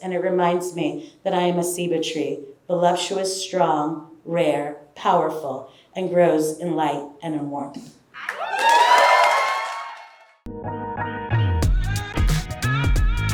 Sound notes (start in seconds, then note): 8.2 audience cheering; 10.5 upbeat music